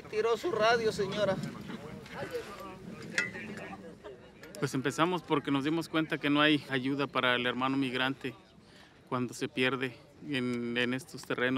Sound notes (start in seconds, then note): 0.1 group speaks Spanish; 4.6 crew member speaks Spanish